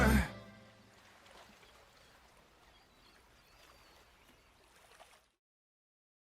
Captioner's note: beach sounds